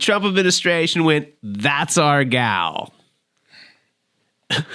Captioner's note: laughs